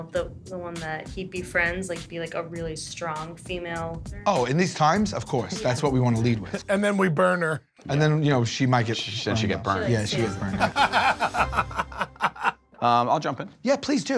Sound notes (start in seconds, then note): 10.4 Q laughs